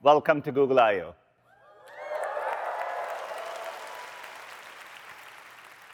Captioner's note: applause